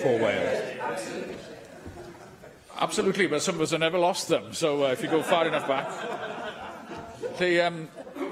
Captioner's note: laughter